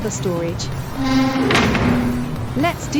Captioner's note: door Open